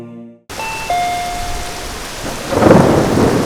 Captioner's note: doorbell rings; rain pattering; thunder rumbling